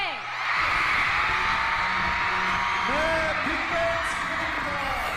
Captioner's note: crowd cheering